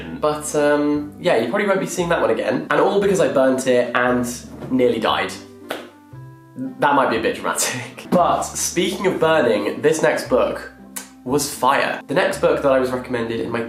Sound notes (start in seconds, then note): 5.7 clapping; 10.8 kissing